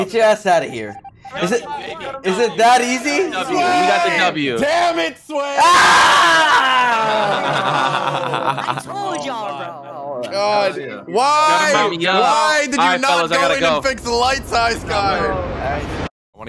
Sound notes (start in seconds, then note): 5.3 shouts; 6.4 laughs